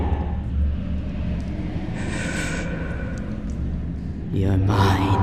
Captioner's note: background thrum becomes ominous